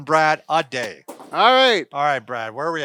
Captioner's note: sign clatters to floor